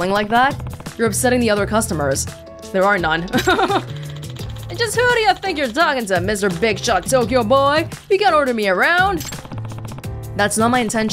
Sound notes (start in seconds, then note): 3.2 chuckles